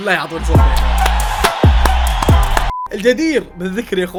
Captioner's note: applause